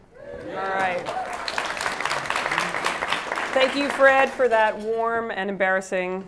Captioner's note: applause